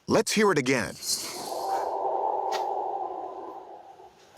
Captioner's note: eerie sound